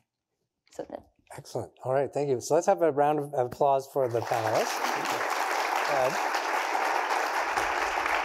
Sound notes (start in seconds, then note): 4.0 applause